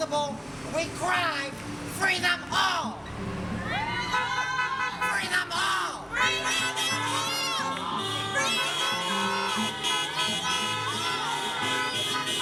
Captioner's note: honking, cheering, and chanting